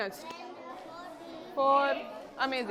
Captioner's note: children discussing in background